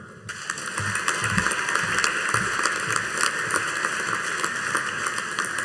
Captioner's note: audience applauding